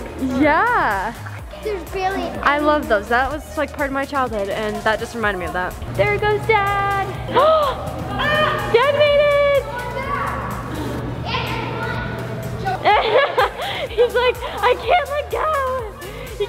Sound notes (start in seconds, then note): 12.6 laughs